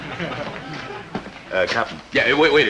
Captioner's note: audience snickering